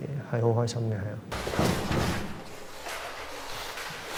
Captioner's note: vigorous rustling and stomping